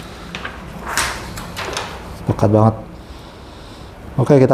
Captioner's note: PET film noise